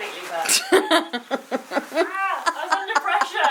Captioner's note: laughs